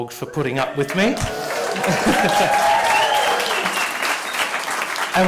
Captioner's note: cheering and applause